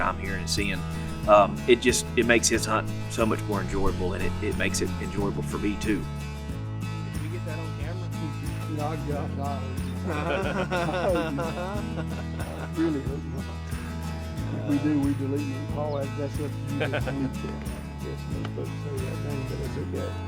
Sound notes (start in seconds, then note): 7.2 distant chatting; 13.4 laughter, chatting